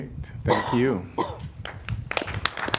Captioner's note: applause